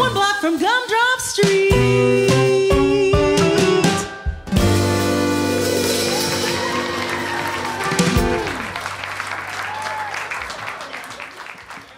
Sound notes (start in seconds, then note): 5.7 applause